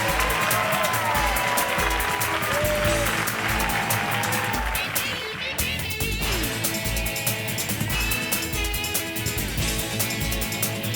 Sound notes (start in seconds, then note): 0.9 upbeat music; 2.9 audience cheering and clapping; 6.9 upbeat music